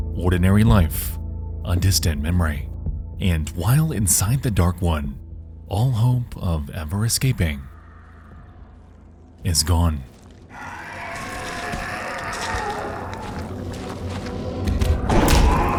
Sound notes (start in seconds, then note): 10.3 eerie music; 10.5 creature snarling